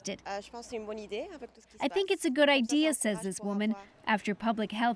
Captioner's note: speaking French